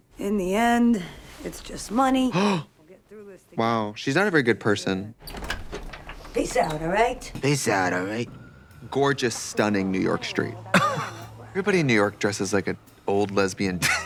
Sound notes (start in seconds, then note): 2.3 Trixie gasps